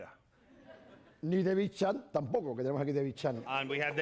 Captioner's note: speaking spanish